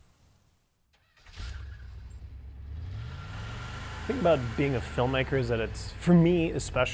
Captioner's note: car engine starting